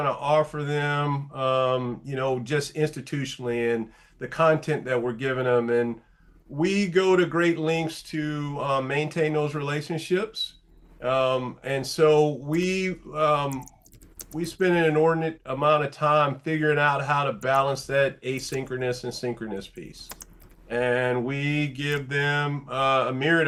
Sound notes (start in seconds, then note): 13.4 keyboard typing; 20.9 keys clacking